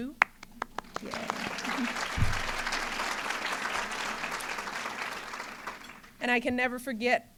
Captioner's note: applause